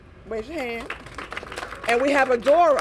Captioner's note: applause